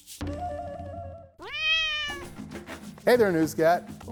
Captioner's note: cat meows